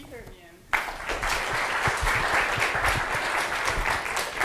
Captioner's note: applause